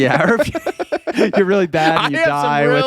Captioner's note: laughing